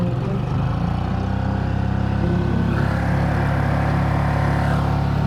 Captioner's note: boat engine droning